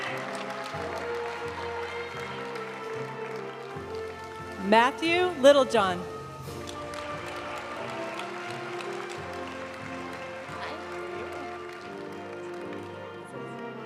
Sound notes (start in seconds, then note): 0.2 graduation music; 6.3 audience cheering and applauding; 9.9 graduation music